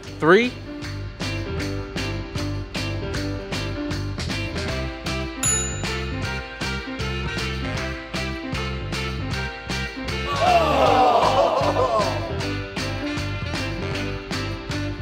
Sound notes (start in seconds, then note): 1.6 bouncy music; 10.2 crowd disgusted